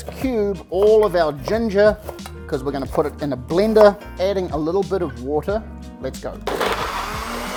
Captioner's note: blender Sounds